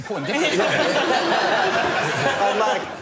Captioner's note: laughter